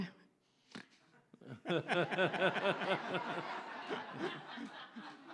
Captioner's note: audience laughs